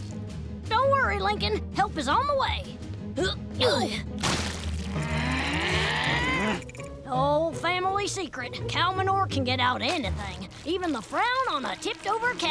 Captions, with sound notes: Don't worry, Lincoln. Help is on the way! [growling] Oh, family secret. Cow manure can get out anything, even the frown on a tipped-over cow!